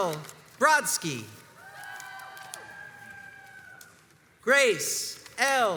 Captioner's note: crowds cheers and applauds